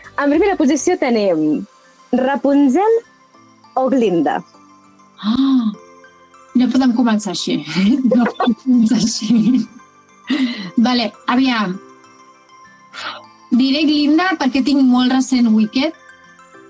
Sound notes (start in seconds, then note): 8.0 laughs